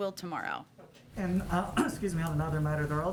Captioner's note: coughs